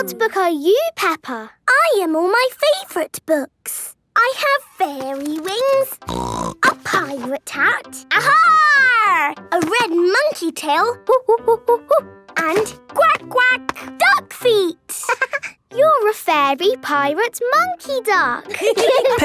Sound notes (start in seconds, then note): 6.1 snorting; 11.6 monkey sounds; 13.6 quacking; 15.3 laughing